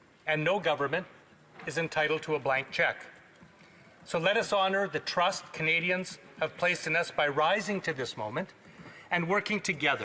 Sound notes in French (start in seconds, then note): none